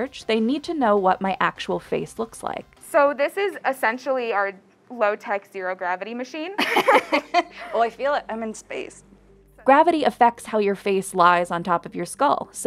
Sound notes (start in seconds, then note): 6.6 both laughing